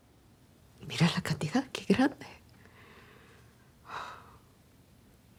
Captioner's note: Isabel speaks Spanish